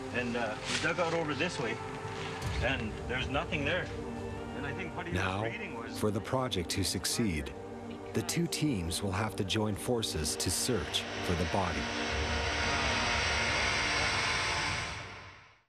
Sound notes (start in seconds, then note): 5.5 voiceover; 12.4 suspenseful music